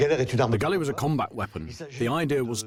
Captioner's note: voiceover